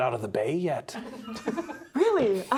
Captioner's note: players laughing